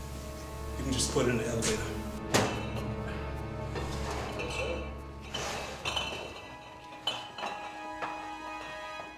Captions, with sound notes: - You can just put it in the elevator. (clinking)